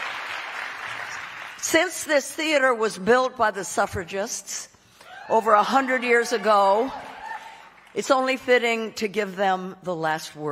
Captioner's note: cheering